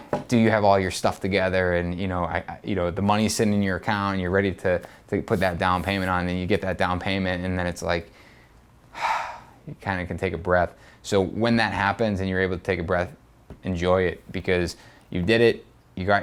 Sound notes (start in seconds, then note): 8.9 sighs